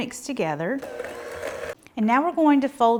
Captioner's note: hand mixer whirring